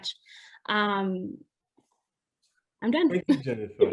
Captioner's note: laughs